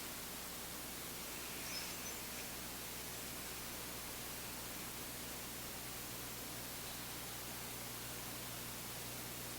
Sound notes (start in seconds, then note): 1.3 inhaling